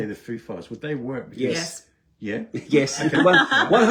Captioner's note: laughter